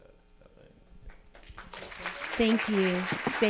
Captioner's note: audience applauding